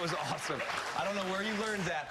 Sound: cheers and applause

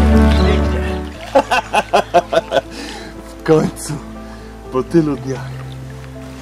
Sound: laughing

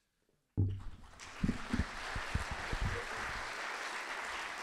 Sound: audience applauding

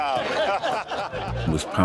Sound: crowd laughs

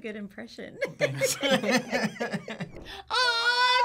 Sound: both laugh

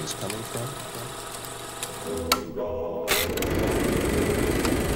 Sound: projector clicking

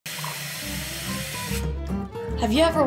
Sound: glass fills

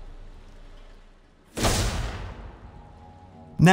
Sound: gunshot

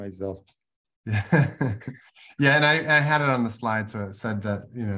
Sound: laughs

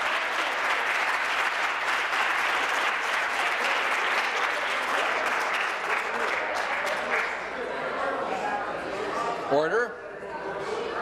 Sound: applause

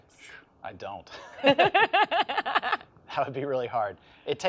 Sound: laughs

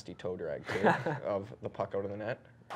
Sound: laughs

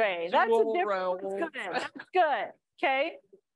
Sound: chatter

